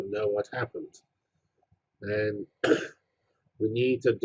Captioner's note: cough